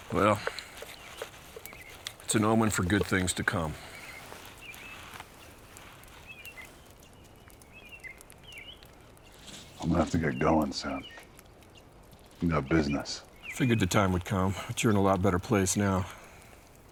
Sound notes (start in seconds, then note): 4.6 birds chirping